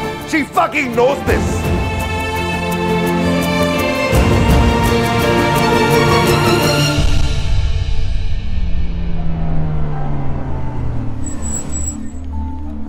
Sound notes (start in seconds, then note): 8.5 Car halting